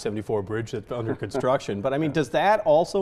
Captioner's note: laughs